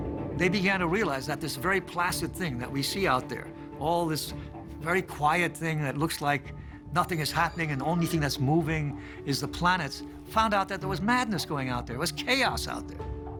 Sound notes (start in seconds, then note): none